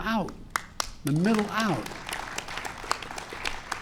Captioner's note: applause